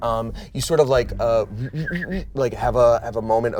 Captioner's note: whistling sound